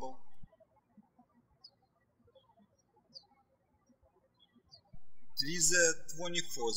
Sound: birds chirping

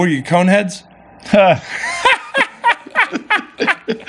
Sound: laughing

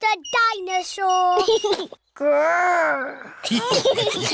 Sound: giggles; laughter

